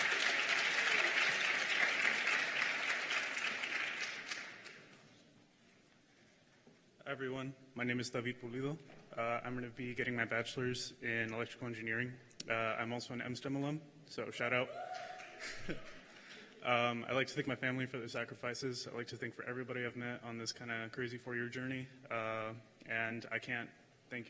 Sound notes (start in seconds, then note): 8.9 cheers and applause